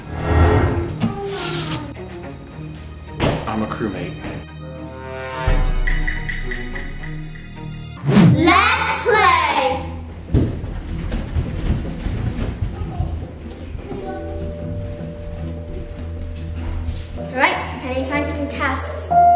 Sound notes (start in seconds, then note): 1.2 paper rustling; 4.4 dramatic music; 10.2 feet thudding; 15.8 suspense music